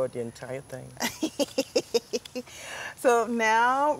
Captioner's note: laughs